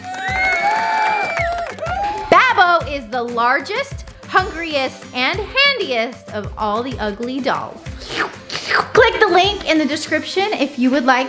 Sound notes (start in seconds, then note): 0.0 audience cheering, clapping, whistling; 8.0 slurping